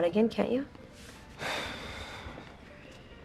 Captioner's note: slGHS